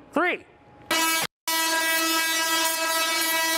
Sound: buzzing

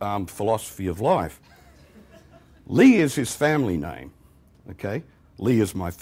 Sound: laughter

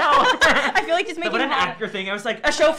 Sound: laughing

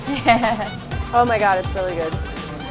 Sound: laughs

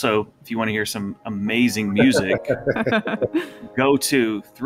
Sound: laughing

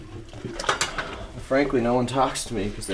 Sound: dishes clatter

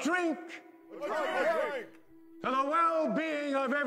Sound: crowd

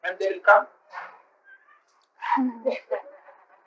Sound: laughter

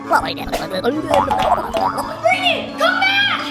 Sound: gasps; speaks gibberish

